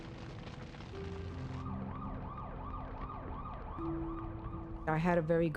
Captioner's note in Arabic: هدير النار; صافرة الإنذار تدوي